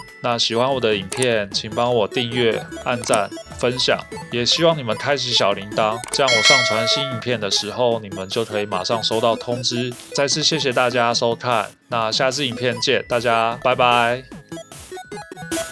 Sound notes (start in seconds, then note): 6.2 bells